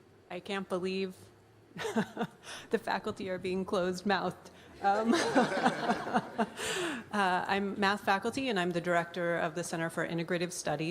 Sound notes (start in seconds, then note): 4.9 laughter